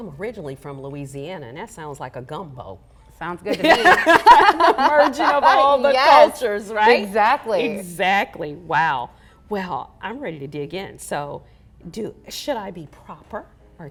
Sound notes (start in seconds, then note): 3.5 laughter